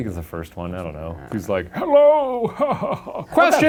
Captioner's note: laughs